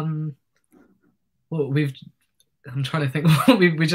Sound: chuckles

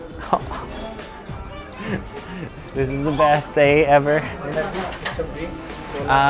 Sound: chuckles

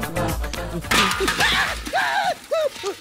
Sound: thuds

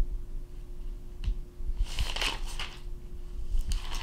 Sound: papers rustling

